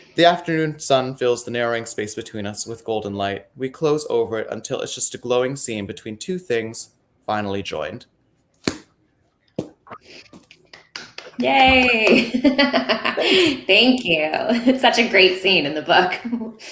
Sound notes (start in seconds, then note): 10.7 clapping; 11.7 laughing